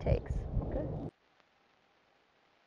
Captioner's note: quietly